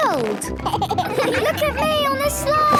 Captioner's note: giggles